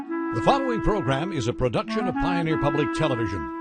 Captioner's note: voiceover